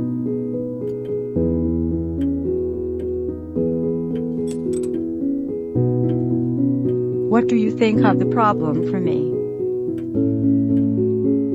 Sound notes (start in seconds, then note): 4.7 glass clinking